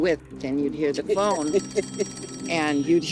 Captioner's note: phone ringing